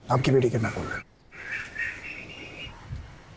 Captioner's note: Birds chirping